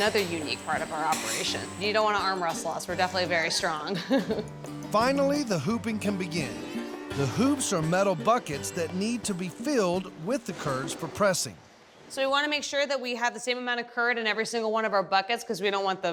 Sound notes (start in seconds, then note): 3.9 laughing